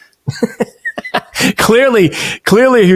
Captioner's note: laughing